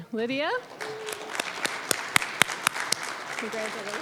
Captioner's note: applause